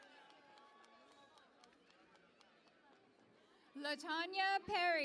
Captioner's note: cheering and Applause